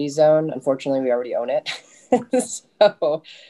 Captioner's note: chuckles